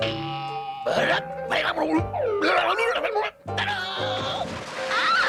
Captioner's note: muttering